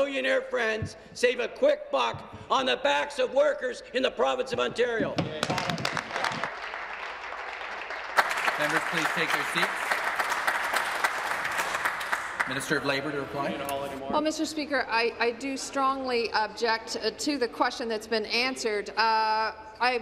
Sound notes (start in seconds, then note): 8.1 applause